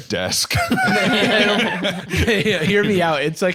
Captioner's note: all laughing